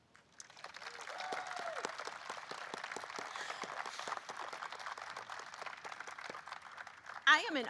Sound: applause

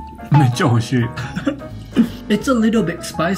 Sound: chuckles

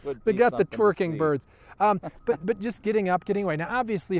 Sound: laughs

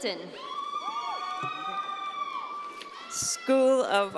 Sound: audience cheering

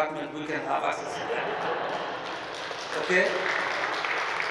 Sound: group chuckling and applauding

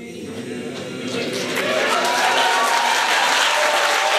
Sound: applause and cheers

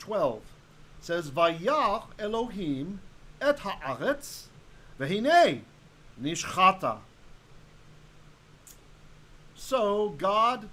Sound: Hebrew

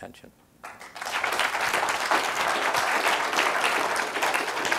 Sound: applause

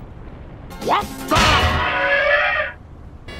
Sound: elephant trumpeting

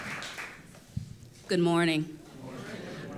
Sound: applause

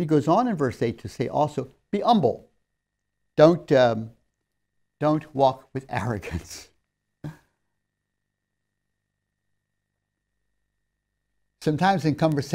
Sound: laughs

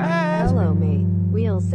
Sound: AI voice

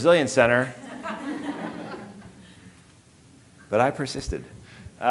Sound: audience laughing

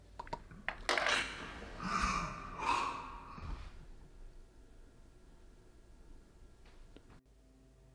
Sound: whisper and echo sound

